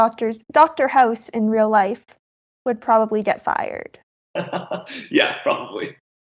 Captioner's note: laughs